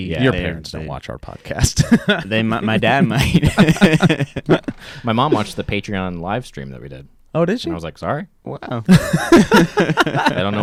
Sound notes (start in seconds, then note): 3.6 laughing; 8.8 laughing